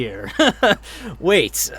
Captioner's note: laughs